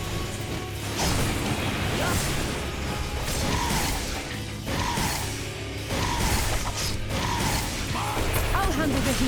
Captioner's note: explosions